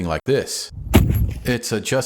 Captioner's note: thud!